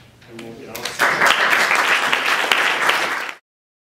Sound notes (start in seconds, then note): 0.8 applause